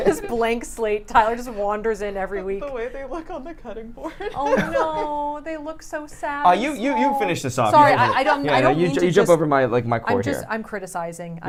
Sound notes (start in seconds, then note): 4.2 laughs